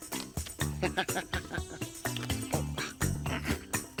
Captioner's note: giggling